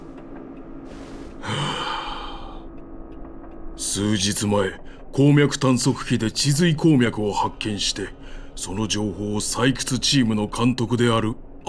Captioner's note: sigh